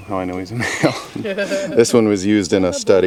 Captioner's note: laughing